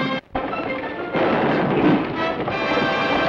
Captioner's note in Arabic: صوت حوافر الرعد; موسيقى أوركسترالية درامية; اطلاق النار بالبنادق